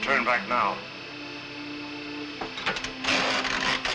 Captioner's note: machine whirring